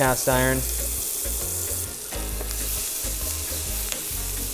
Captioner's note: sizzling